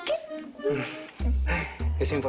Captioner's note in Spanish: Ríe